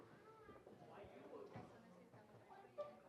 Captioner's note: indistinct chatter